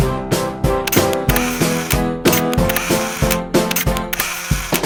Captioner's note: camera shutter clicks